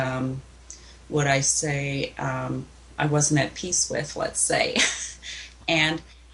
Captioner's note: laughs